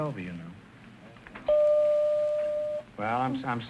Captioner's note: bell chiming